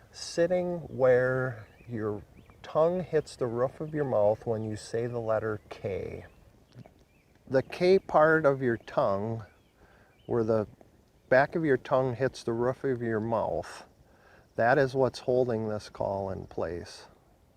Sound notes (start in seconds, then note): none